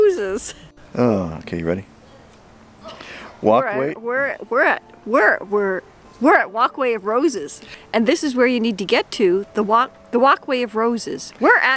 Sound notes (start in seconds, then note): 0.0 laughing; 2.9 sigh